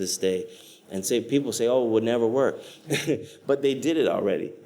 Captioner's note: laughs